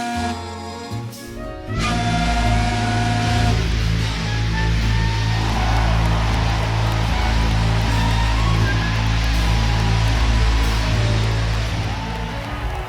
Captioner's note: A final and resolute blast from Queen Mary's whistle fades out